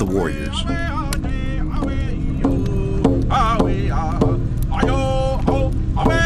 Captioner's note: indian vocalizing in foreign language